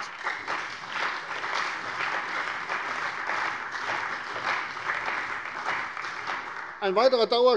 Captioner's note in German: Beifall bei der CDU und dem BÜNDNIS 90/DIE GRÜNEN